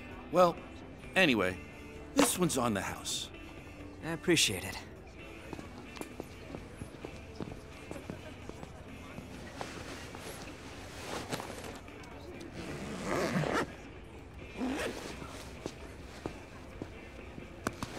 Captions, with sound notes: Well, anyway, this one's on the house. I appreciate it. [CHATTER]